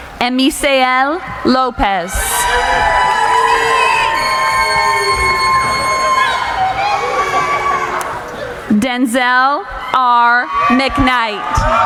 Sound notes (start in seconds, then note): 0.0 cheering; 2.6 cheering